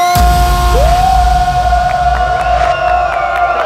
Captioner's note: Shouting